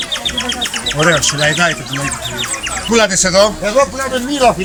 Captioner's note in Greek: ήχος πουλιού